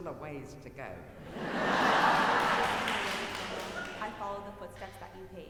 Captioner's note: audience laughing